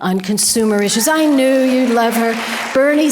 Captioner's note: audience applause